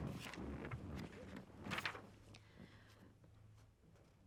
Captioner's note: papers rustling